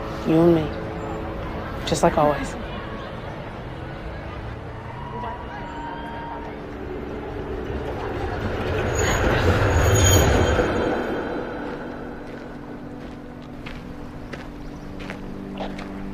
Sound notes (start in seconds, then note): 7.1 train goes